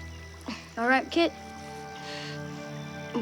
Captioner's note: Kit groans